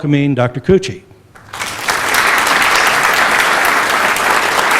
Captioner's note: applause